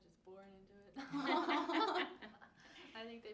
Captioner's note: all laugh